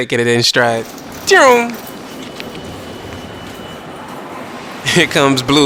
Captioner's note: zooooom